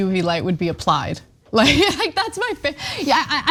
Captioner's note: laugh